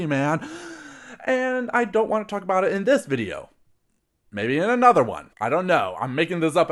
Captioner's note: breath